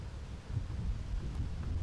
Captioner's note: wind blowing